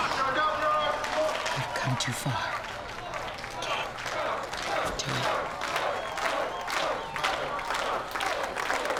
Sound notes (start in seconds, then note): 6.0 chanting "george"